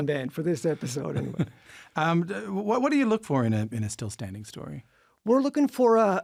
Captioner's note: laughs